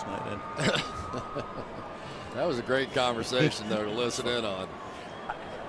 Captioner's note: laughs